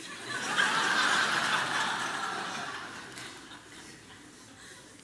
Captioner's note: congregation laughing